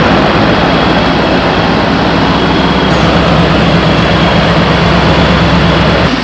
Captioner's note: car engine revving